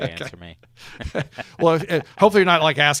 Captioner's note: laughs